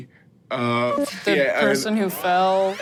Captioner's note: computer beeps; engine powering up